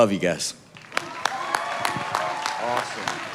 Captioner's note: audience applauding